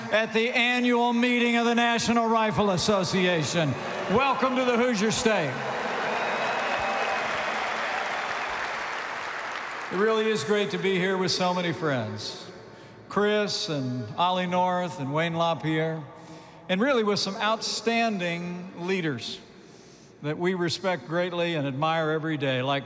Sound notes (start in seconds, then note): 6.0 applause